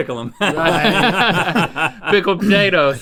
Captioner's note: laughing